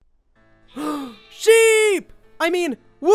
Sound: gasping

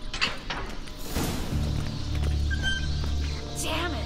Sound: squeaking grows louder

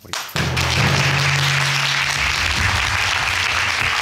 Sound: audience applauding; drum roll

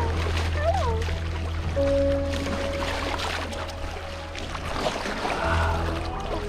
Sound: dolphins splashing in water; soft music

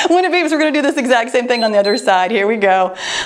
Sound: timer beeps

